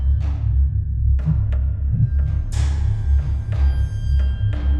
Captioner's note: heart pounding